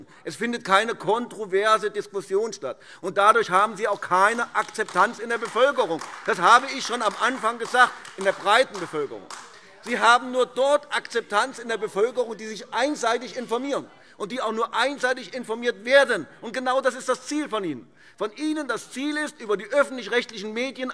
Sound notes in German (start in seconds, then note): 5.6 Beifall AfD; 8.4 Anhaltende Zurufe